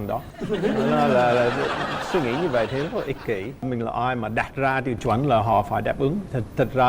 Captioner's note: laughing